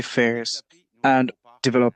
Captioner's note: speaking French